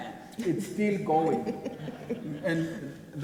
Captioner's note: people laugh